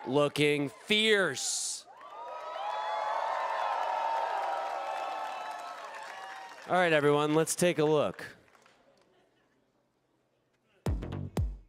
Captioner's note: applause